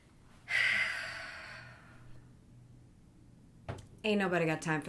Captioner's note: sighs heavily